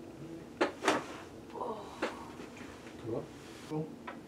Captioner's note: patient moans